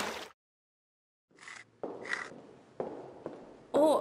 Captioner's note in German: Kratzen an Wand